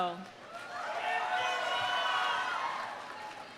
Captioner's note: audience cheering; audience applauding